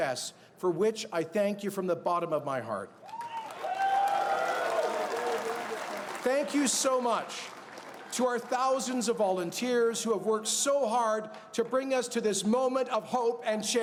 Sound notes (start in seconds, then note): 8.7 cheers and Applause